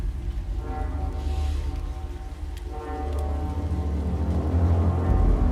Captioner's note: wind whistling